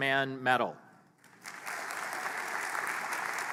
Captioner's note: applause